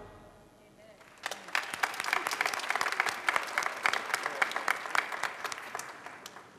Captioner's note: applause